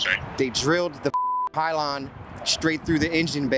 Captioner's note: beep